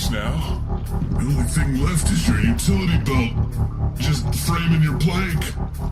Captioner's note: terrified